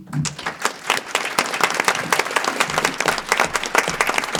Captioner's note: audience applause